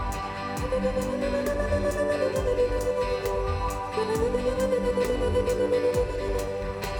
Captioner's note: pulsating vocal modulation